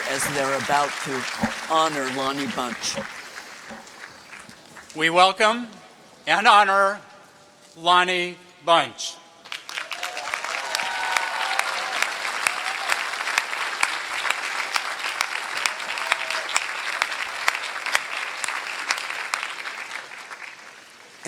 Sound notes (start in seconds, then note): 10.2 applause